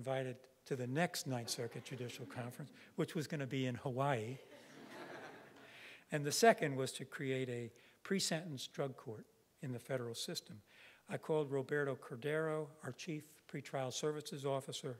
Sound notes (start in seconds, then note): 4.4 audience laughing